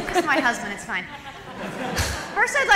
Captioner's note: laughter